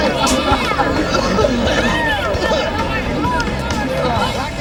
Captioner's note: gagging